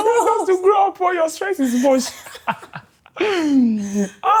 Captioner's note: laughing